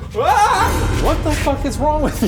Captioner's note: screams